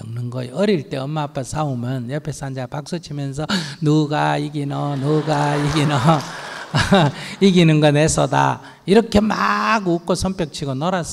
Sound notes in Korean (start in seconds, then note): 4.4 청중 웃음; 4.6 스님 웃음